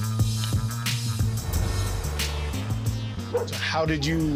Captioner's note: horn beeps